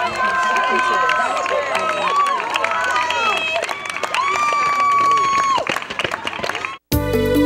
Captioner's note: cheering